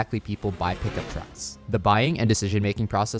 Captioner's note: vehicle whooshing